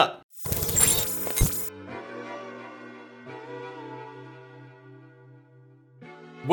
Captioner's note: electronic whirring; soft music